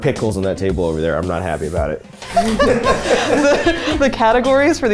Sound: all laughing

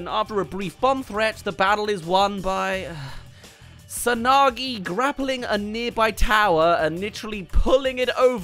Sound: sigh

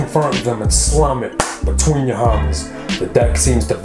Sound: claps hands

